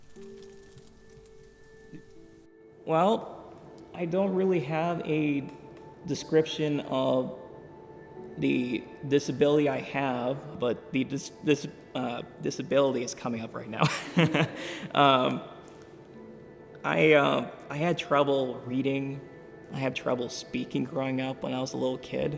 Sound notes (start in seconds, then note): 0.1 gentle music; 13.9 laughs